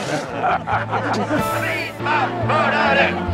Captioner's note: laughter